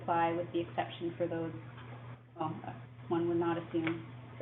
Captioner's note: interference